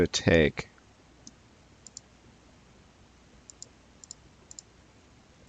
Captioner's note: mouse clicking